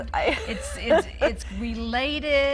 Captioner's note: laughing